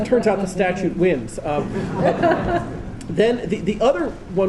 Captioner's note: laughter